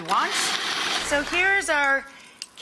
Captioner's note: grinding